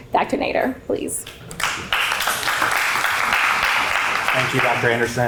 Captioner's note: applause